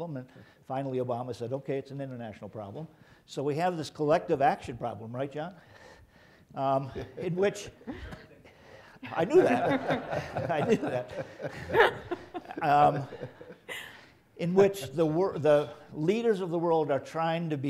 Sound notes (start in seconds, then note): 6.8 chuckling; 9.1 laughing